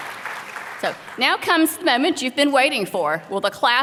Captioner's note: applause